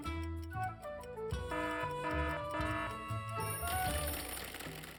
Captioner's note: alarm buzzing